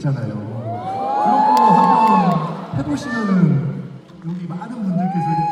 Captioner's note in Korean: 환호